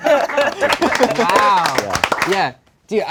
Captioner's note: all clapping